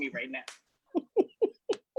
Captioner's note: laughing